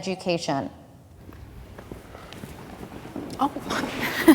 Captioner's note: feet clomping